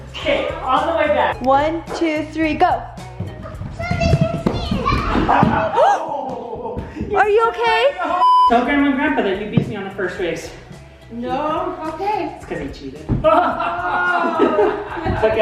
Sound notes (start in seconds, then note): 5.7 gasping; 13.2 laughing